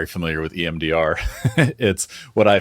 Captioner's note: laughing